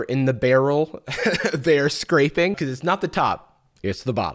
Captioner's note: chuckles